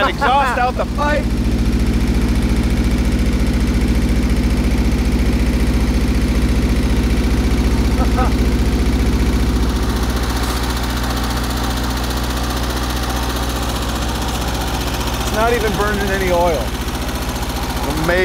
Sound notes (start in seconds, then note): 2.3 engine running